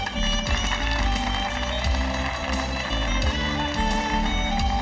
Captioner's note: audience applauding; upbeat music